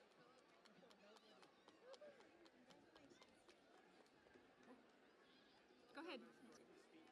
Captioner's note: cheering and Applause